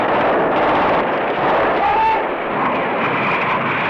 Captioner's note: yell